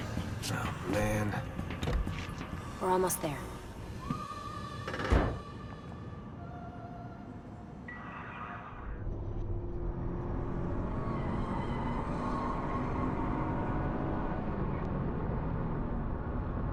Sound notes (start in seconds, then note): 4.5 closes the car's trunk